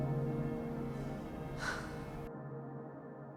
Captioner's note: Max exhales